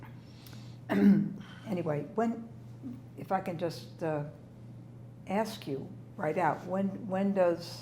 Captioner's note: clears throat